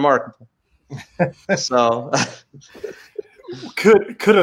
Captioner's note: laughs